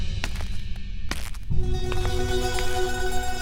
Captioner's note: footsteps approaching